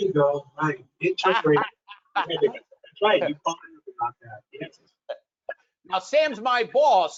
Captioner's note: audio distorts; laughs